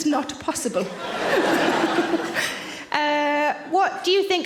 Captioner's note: audience laughing